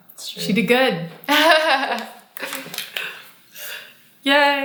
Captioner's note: laughs